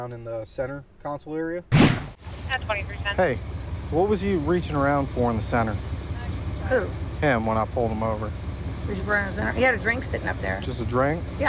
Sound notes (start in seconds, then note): 2.1 police radio traffic